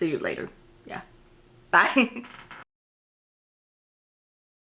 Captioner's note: chuckles